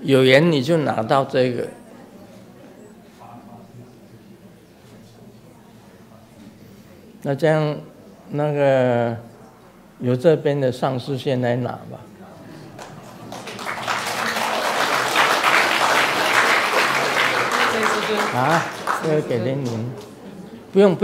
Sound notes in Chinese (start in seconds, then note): 12.6 眾鼓掌